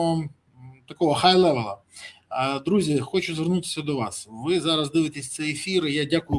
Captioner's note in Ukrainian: сопіння